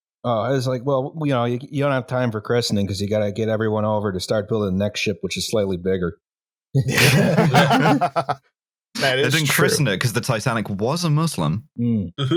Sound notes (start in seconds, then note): 6.8 laughter